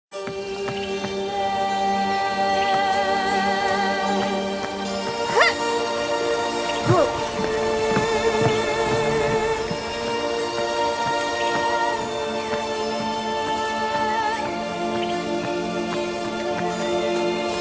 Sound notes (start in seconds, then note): 0.3 bright music; 0.3 singer vocalizing; 6.1 character grunting